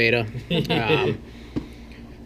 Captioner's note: laughs